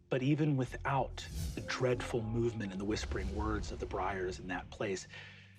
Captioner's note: none